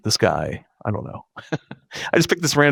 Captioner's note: laughing